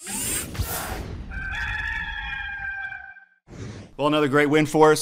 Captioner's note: cock crowing